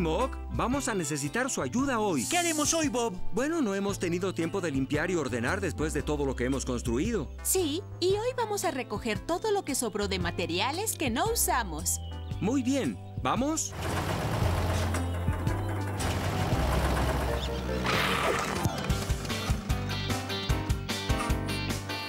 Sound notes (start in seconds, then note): 13.7 engines Revving; 17.9 brakes Screech